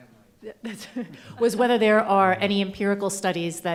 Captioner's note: chuckles